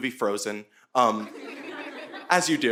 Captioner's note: audience laughing